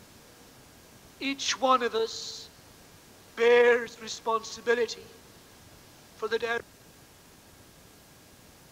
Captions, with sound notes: Each one of us bears the responsibility for the ... (tape cut out).